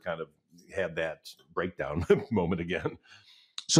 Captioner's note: chuckles